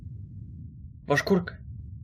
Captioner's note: slurring